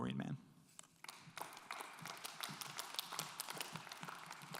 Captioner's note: audience applauds